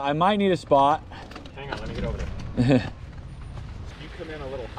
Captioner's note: laughs